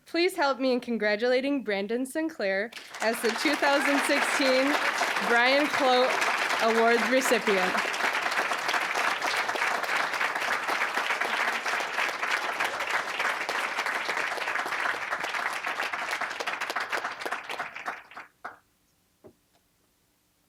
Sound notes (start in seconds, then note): 7.9 applause